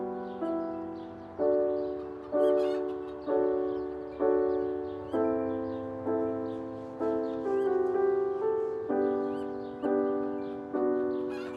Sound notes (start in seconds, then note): 1.6 chickens clucking; 7.0 slow melancholic music continues